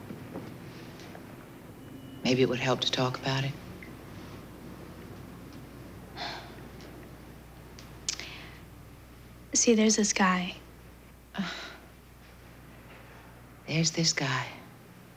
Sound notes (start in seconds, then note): 6.1 sighs